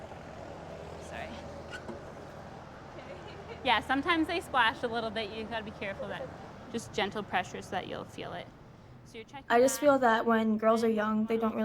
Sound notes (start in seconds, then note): 1.6 squeak; 2.9 laughing